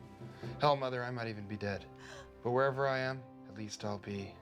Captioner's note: gasps